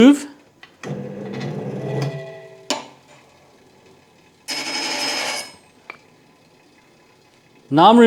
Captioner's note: grinding Noise